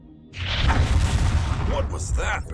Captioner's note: impact